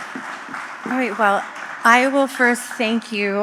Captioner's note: applause